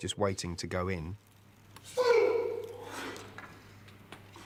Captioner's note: grunting